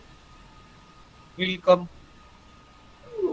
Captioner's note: German